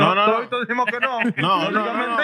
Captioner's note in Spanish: Hablando en idioma extranjero